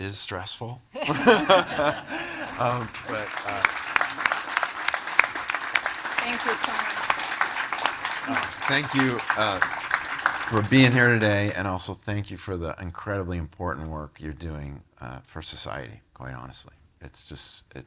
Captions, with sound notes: - Is stressful. (all laughing) (audience applauding) - Thank you so much. - Thank you for being here today and also thank you for the incredibly important work you're doing for society, quite honestly.